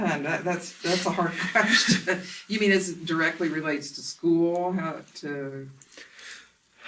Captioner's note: both laugh